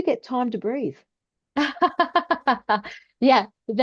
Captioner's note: laughs